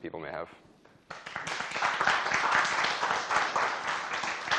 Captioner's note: applause